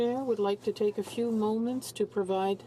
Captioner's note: speaking French